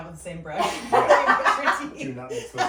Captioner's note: laughing